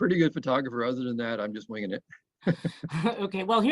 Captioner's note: laughs